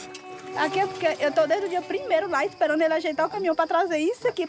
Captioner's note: Portuguese spoken audio